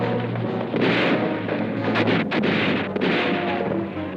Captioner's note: gunfire blasting